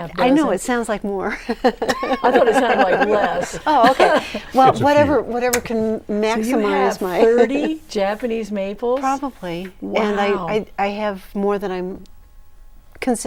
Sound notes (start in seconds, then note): 3.0 laughing